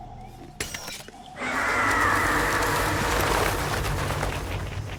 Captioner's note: screeching